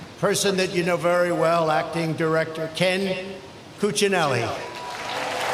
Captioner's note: applause